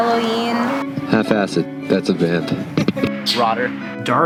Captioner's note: laughs